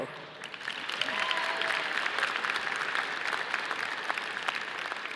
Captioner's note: audience applauding